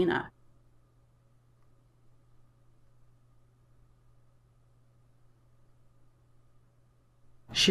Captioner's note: silence